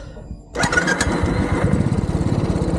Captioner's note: engine starts